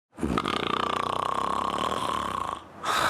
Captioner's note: snoring